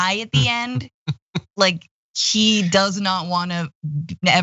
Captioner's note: laugh